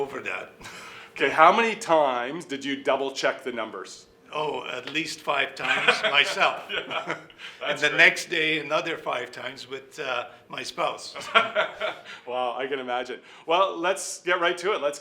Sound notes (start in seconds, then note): 5.6 laughing